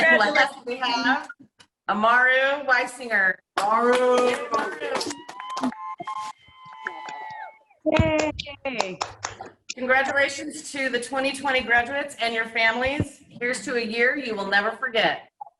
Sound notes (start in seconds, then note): 3.6 clapping; 4.0 cheering